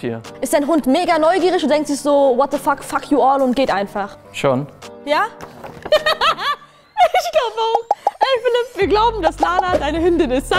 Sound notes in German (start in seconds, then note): 5.9 Lachen